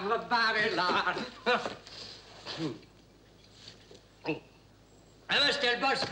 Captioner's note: Monsieur Vanet chuckles